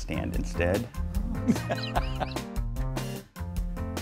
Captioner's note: laughs